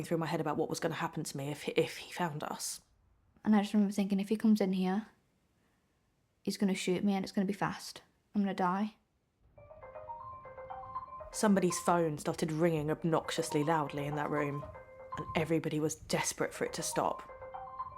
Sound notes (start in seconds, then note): 9.6 cell phone rings